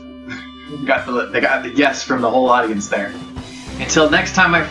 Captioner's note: chuckles